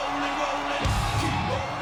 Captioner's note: audience cheering